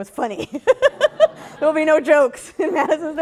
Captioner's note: laughter